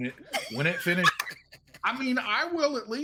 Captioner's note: laughing